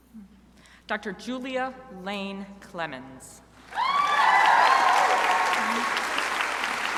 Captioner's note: crowd applauding